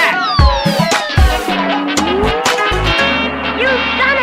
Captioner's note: boing!